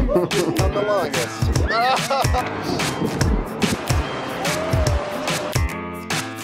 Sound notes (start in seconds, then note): 1.6 laughing; 4.1 water splashing